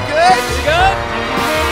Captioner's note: audience Cheering for the most amazing people in the world